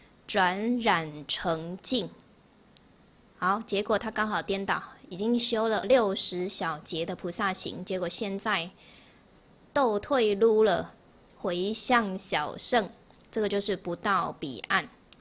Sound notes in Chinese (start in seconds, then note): 10.0 台語